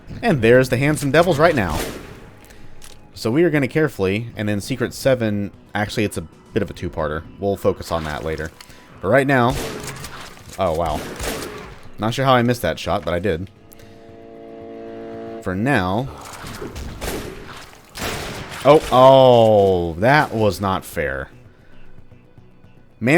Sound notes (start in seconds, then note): 9.4 shotgun blasting; 14.2 chargeup sound; 16.1 railgun shot